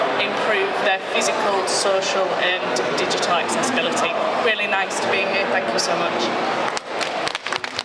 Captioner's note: applause